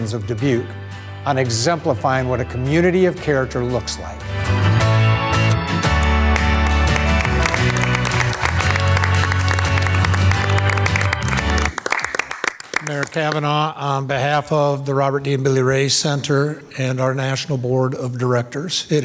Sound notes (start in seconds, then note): 4.4 upbeat music; 5.8 audience applauding